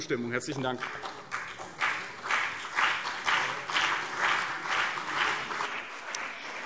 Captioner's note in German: Beifall CDU und BÜNDNIS 90/DIE GRÜNEN